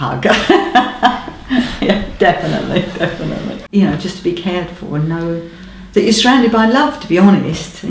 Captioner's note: laughs